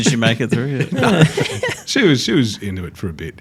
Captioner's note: all laugh